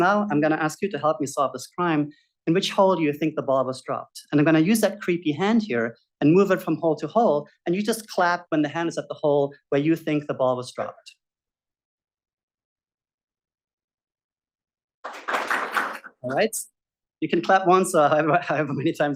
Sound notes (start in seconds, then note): 15.0 audience claps